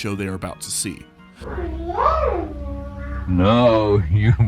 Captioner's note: alien speaking another language